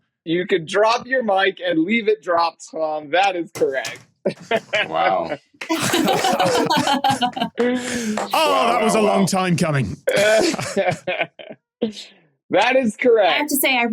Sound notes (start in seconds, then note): 5.6 others laughing; 5.8 claps